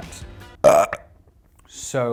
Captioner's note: belches